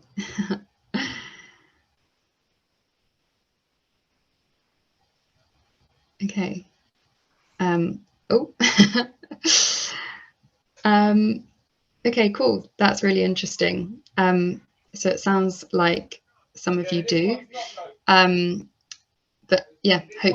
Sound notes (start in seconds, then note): 5.6 silence 07.24-07.46